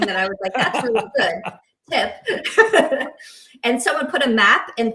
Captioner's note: group laughing